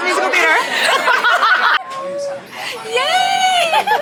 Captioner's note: everyone laughing